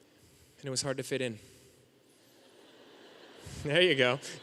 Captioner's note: audience laughing